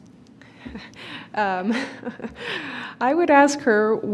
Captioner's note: chuckling